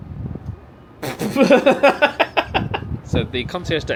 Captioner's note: laughs